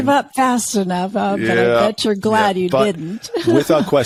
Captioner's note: laughs